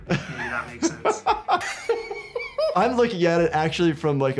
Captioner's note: laughing